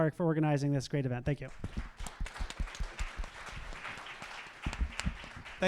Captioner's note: audience applauding